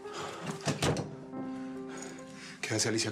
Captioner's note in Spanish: portazo